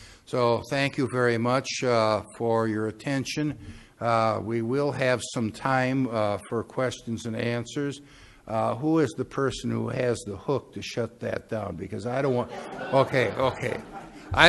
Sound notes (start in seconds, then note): 12.4 laughing